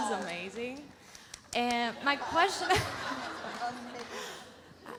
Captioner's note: laughs